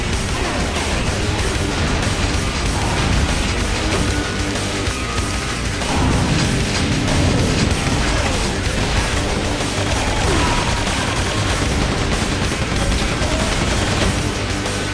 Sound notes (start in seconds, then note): 0.0 epic Heavy Metal Music; 0.0 rapid gunfire; 2.3 epic Heavy Metal Music; 6.8 shotgun blast; 7.8 epic Heavy Metal Music; 8.5 heavy gunfire; 9.6 epic Heavy Metal Music; 10.4 rapid gunfire; 13.0 epic Heavy Metal Music